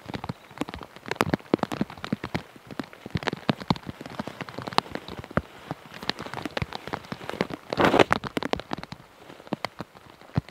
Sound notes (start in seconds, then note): 6.5 raindrops patter